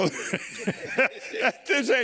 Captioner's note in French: rires